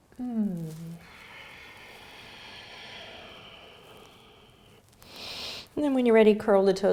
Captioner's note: breathing